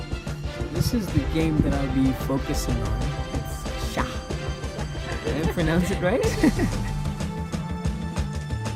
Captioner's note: lady in the BG giggles